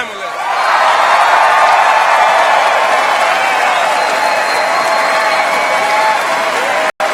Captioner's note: cheers